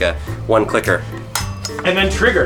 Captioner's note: clicking